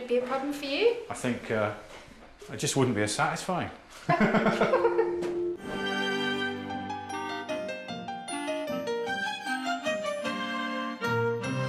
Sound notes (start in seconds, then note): 4.0 laughing